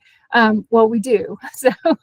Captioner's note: laughing